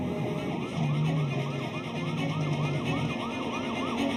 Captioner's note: sirens